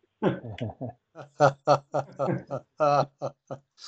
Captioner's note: all laugh